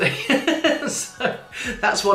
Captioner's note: chuckling